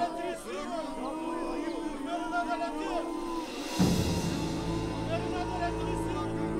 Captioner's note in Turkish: Yuhalama sesleri